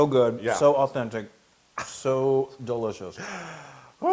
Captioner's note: laugh